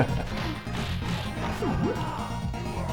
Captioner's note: laughter